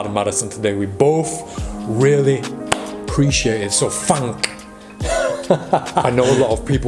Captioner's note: laughs